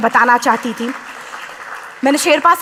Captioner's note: applause